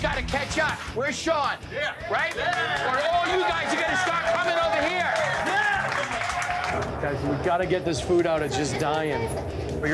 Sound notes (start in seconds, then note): 2.0 cheers